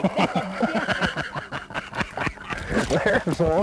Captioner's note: laughter